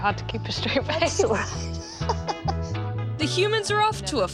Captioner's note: laughs